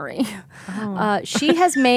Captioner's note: laughing